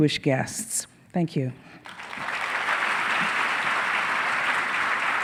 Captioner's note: audience applauding